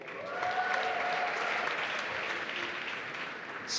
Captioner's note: applause